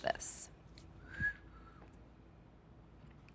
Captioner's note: whistling